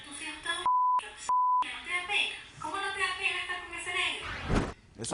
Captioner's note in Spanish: Bip